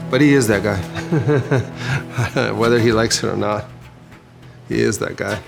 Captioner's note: laughs